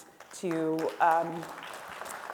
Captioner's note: audience clapping